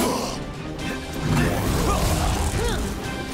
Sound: grunting

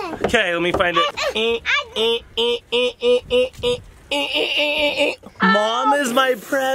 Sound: making beeping noises

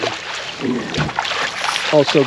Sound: fish splashing

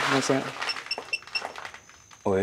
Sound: beep beep beep

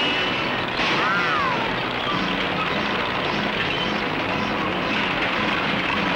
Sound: bulldozer roars and clatters

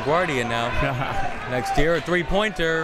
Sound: laughing

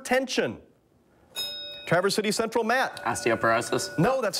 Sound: bell rings

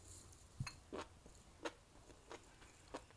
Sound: crunchy crunchy

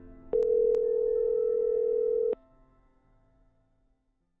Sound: phone ringing

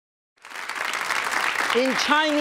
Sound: audience clapping

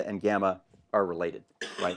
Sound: cough

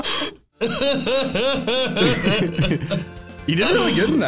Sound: makes crying noises

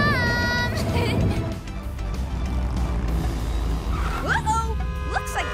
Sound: laughs

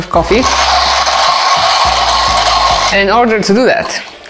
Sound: coffee grinder rattles

